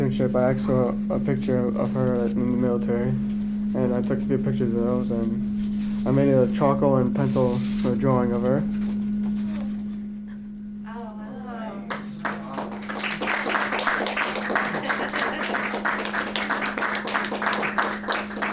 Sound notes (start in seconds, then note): 11.8 applause